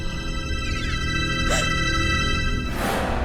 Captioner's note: gasp